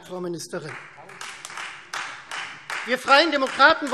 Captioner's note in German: Beifall Freie Demokraten